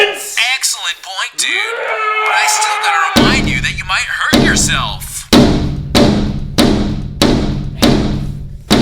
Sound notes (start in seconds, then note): 5.3 banging on door